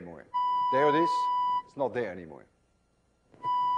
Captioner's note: tone stops